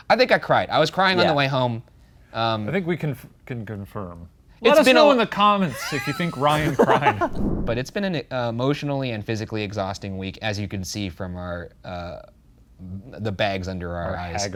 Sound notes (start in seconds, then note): 5.6 both laughing; 7.2 logo whooshing